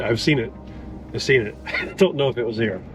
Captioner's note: laughs